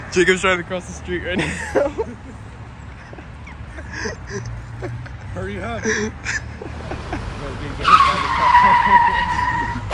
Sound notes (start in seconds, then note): 1.2 silly giggles from silly grown men